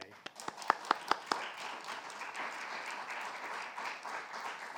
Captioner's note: crowd applauding